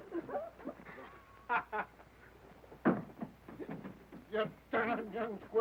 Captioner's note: man laughing